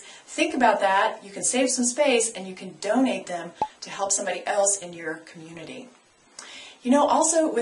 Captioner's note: pop